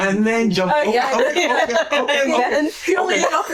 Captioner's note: laughing